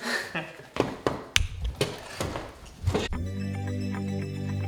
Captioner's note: both chuckle; wheelchair clattering; uplifting outro music